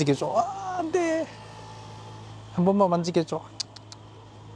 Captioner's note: laughs; laughs